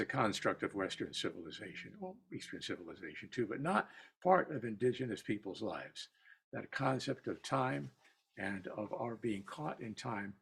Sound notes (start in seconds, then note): none